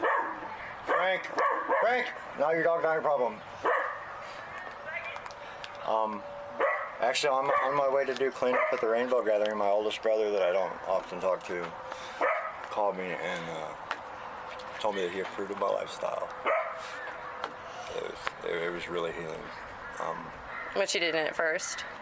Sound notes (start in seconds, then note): 4.0 Frank barking; 4.0 kids yelling in background